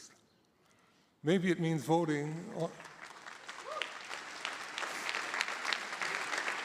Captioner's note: audience applauding